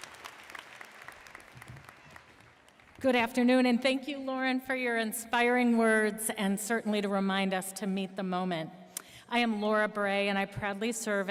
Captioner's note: applause